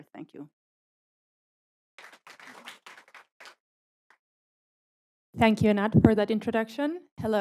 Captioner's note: applause